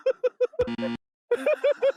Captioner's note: burst into laughter x 3